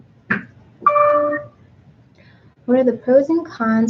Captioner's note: computer dings